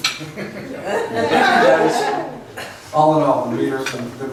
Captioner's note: laughs